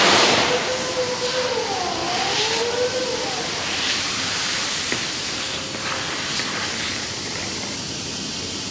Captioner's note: industrial fire roaring